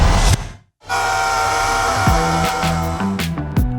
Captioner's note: screams